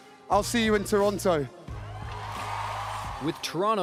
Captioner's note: cheering and applause